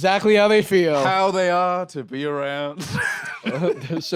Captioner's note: laughs